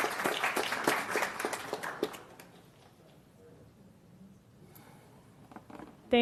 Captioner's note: applause